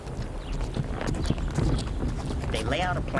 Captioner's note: wagon moving